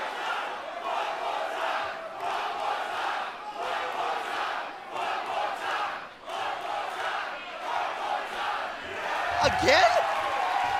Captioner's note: crowd cheering